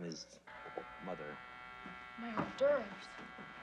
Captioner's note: door buzzer